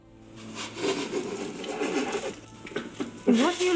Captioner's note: laughing